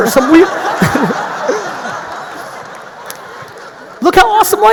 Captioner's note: audience laughing loudly